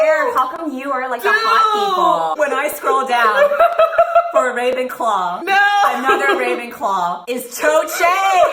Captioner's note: laughing